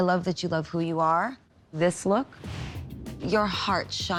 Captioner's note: none